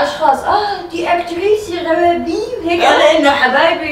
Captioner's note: in Belgian accent